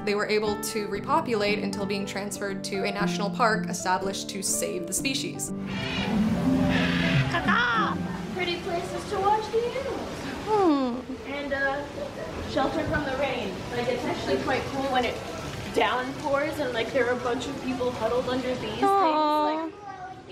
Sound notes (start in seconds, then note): 5.6 bird noises; 5.6 imitating the bird noises